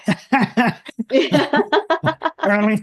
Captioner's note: laugh